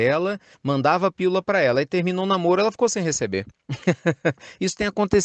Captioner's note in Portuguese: risadas